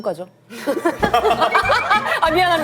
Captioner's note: laughs